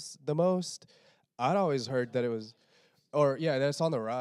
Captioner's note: quietly